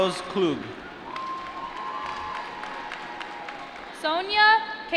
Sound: applause

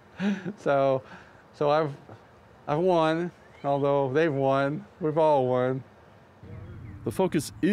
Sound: laughter

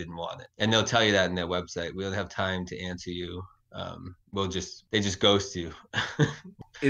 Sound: chuckles

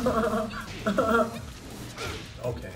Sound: laugh

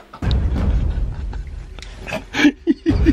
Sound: laughing

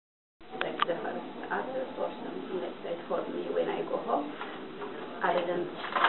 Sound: quiet murmuring

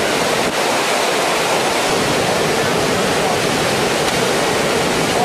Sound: water rushing loudly

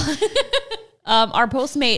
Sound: laughing

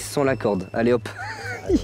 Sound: laugh

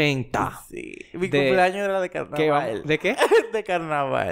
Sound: laughs

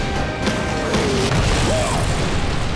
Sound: grunting

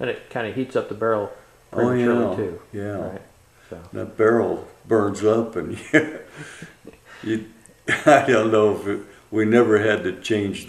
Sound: laughs

